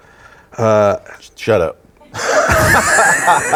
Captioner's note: audience laughing